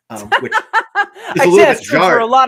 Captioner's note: laughing